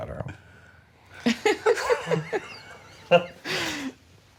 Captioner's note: laughter